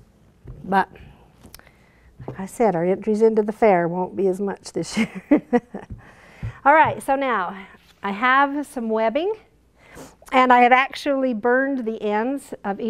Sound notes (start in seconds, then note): 5.8 laughing